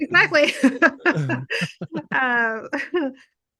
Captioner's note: laughing